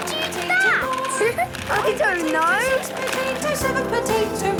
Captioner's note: laughing